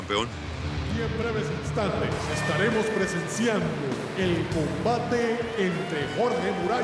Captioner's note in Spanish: Voz en los altoparlantes